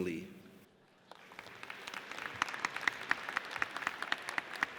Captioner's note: audience applauds